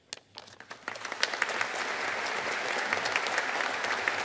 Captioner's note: audience applauding